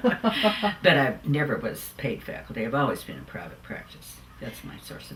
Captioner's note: laughs